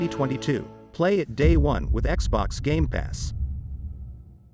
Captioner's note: dramatic sound